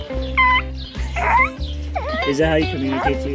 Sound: trying to make parrot noises

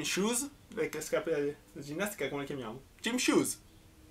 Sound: explaining in italian

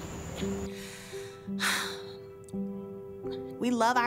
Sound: sighs

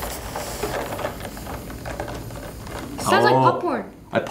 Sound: air hissing

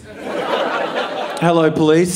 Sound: audience laughing

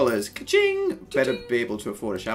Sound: smol money noise

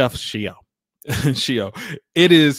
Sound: laughs

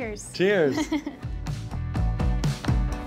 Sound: laughs

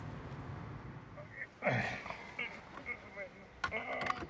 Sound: loud grunting

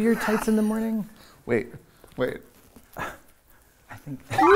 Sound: exhales deeply

